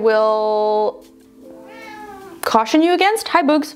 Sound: cat meowing

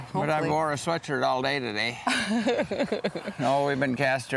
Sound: laughing

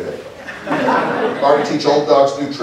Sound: laughter

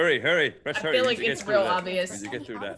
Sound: laugh

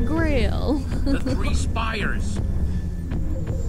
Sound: laughs

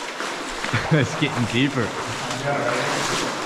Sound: laughs

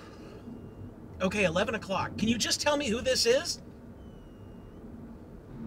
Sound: sigh

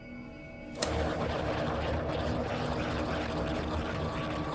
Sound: mirror whirs

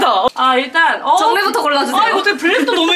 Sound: laughing

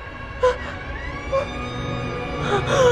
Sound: door creaks; music intensifies

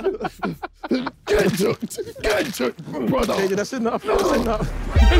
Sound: laughing; knife slicing

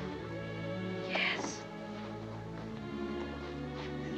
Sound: whispering

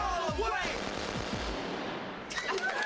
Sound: gunshots

